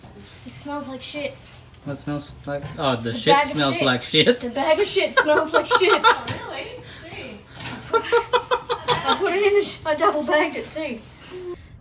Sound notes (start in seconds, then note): 5.6 cackles; 7.6 continues to cackle